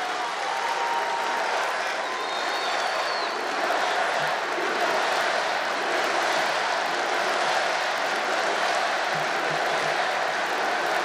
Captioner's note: applause